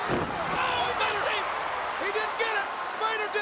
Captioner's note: body thumps